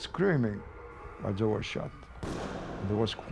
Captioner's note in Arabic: إطلاق نار